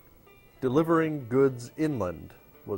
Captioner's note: Arabic